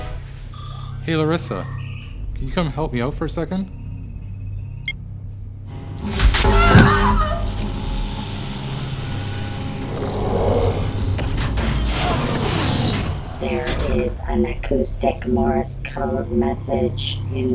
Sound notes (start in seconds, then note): 0.4 electronic beeping; 6.2 screams; 9.0 electronics humming